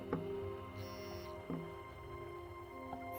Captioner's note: camera beeps